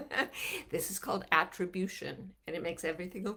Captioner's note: laughing